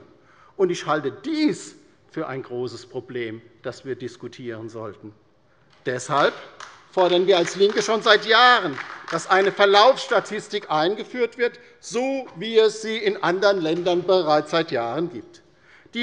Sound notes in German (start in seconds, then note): 3.9 Beifall bei der LINKEN